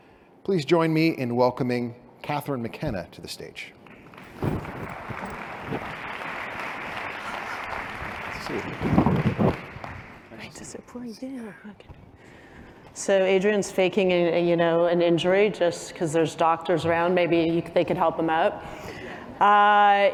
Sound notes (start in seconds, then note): 3.8 applause